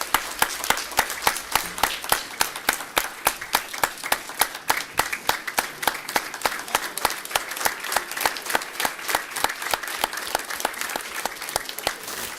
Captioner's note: applause